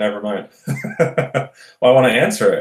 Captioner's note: laughs